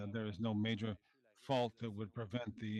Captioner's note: speaking French